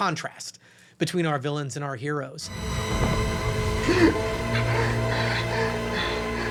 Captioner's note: panting